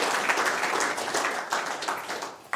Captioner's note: applause